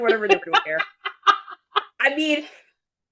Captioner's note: laughing